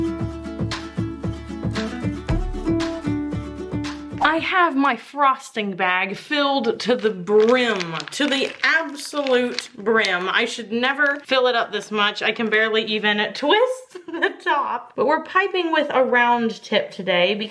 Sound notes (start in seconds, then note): 13.8 laughs